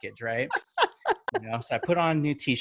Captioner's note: laughs